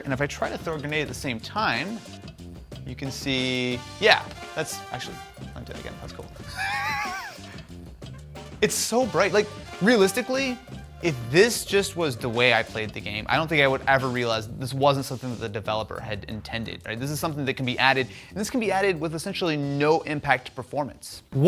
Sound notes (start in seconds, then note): 6.4 chuckles